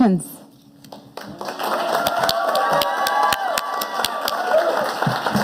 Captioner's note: audience applauding